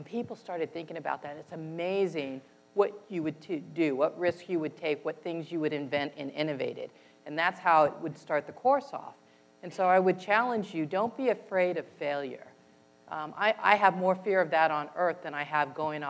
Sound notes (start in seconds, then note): none